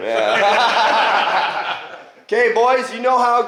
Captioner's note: all laughing